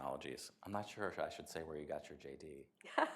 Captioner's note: laughter